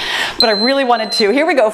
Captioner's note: timer beeps